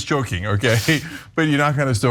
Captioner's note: laugh